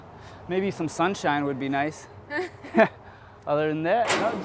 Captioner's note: laughs